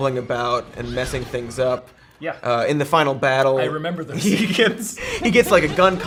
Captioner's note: laughs